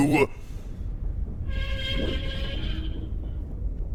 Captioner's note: rumbling, metal creaking